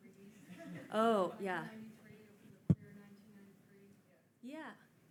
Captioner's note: faintly speaking